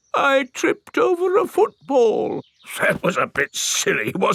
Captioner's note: in normal voice; in teddy's voice; in normal voice